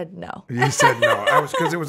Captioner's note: laughs